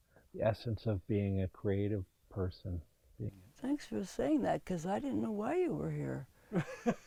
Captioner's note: laughs